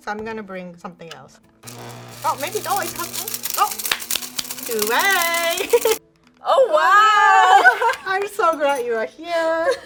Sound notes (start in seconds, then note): 1.6 grinder buzzes; 3.9 claps hands